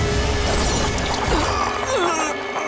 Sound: grunting

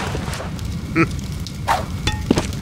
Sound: Peppino chuckles

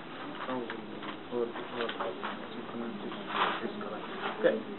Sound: student reads softly

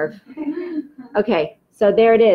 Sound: laughs

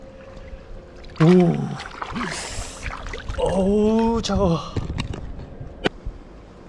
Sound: painful moan

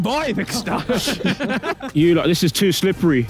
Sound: Tobi laughing

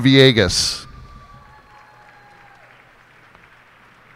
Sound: cheers and applause

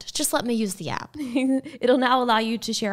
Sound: laughing

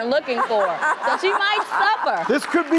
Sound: laughter

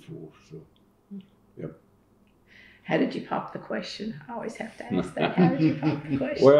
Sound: laughter

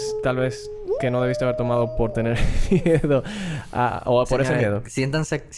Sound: laughs

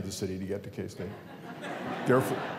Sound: laughter

